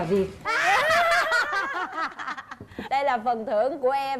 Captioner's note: laugh